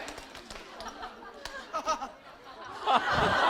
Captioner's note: haha